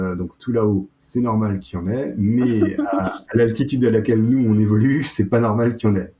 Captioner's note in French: rires